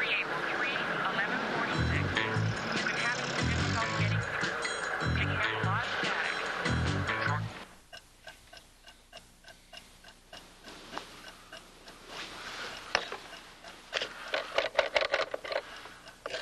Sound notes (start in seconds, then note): 4.1 police radio; 8.2 clock ticking; 16.2 dialing